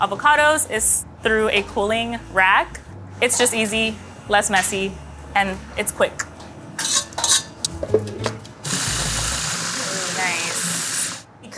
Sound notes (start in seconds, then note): 6.8 steel scraping; 8.6 blender whirring